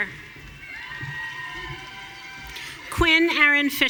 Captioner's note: audience cheering